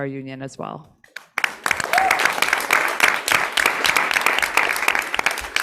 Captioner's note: audience clapping